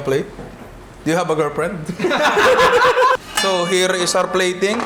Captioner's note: laughter